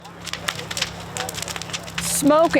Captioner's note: fire crackling